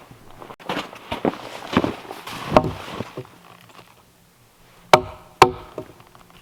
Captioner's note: footsteps crunching; mallet thumping